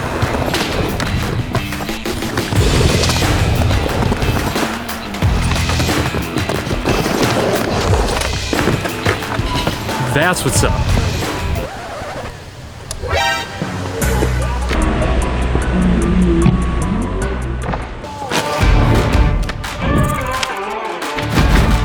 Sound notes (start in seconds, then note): 13.0 screeching; 13.1 dramatic music